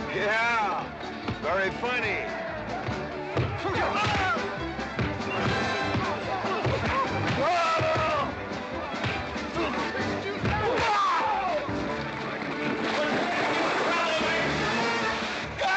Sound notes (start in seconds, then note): 2.4 sounds of scuffling & fighting; 2.4 western fight music